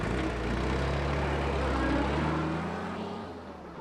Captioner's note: none